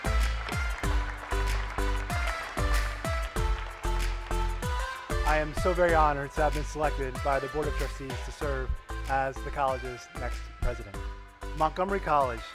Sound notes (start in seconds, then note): 3.5 applause